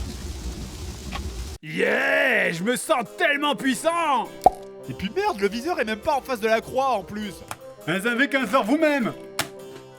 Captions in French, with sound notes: Hyeeeey! je me sens tellement puissant *Plop* Et puis merde le viseur est même pas en face de la croix en plus. Ben z'avez qu'à le faire vous même!